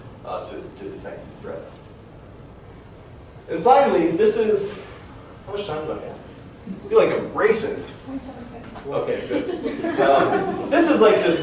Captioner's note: crowd chuckling